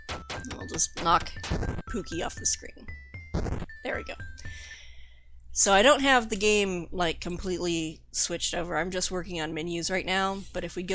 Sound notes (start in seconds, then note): 2.8 explosion sound effect